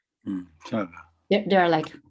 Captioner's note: speaking in foreign language